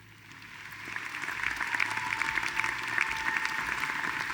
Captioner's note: audience applauding